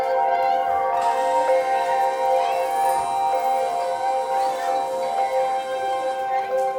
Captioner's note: gentle music continues; children chattering